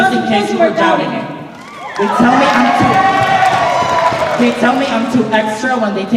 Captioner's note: cheers and applause